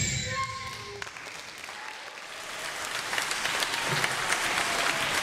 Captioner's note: applause